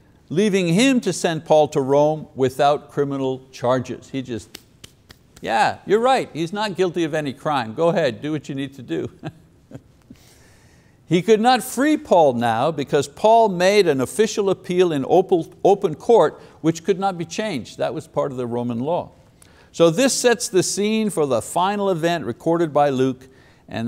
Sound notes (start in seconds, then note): 4.4 claps hands; 10.5 laughs